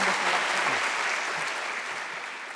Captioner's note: applause